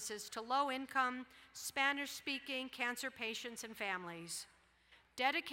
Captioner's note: none